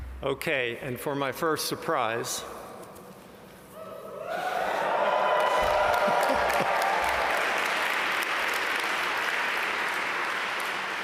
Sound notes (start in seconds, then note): 4.3 audience cheer and applaud